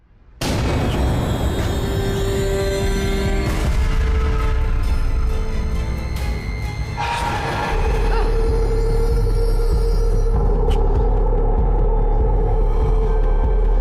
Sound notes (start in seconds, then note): 0.2 sudden ominous music; 2.4 dramatic orchestral music; 7.0 monster screeching; 10.3 tense orchestral music